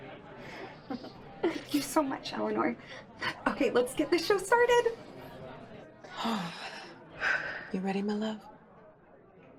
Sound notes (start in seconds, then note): 0.7 laughs; 6.2 Eleanor and Joan sigh